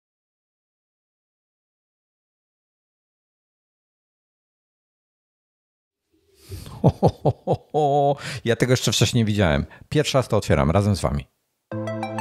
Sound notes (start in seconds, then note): 0.0 silence; 6.5 laughter